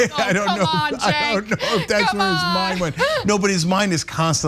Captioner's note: laugh